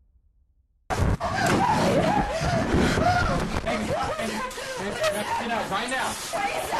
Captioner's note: screaming